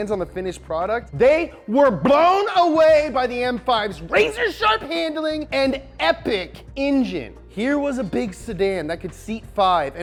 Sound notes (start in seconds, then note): none